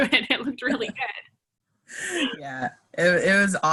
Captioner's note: laughing; laughs